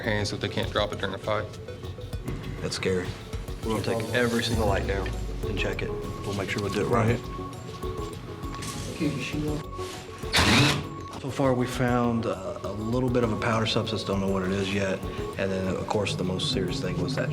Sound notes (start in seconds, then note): 10.2 drilling